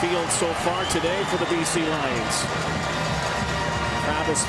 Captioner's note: crowd Noise